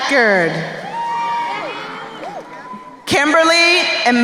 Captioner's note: crowd cheering